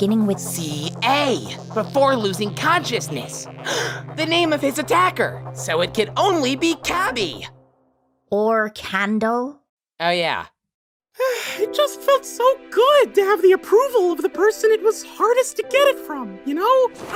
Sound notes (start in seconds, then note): 3.6 gasp